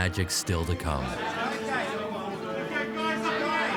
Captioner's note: press clamoring